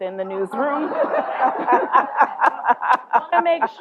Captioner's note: laughter